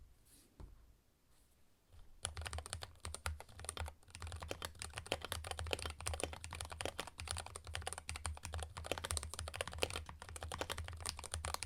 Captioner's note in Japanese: キーボードの音